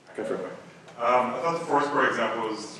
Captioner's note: voiceover